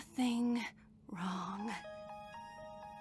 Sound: phone rings

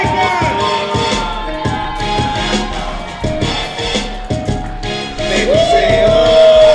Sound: audience cheers; slow music

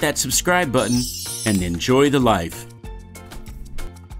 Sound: sparkly effect

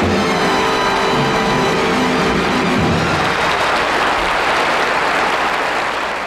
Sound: audience applauding

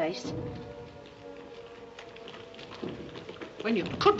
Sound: footsteps outside

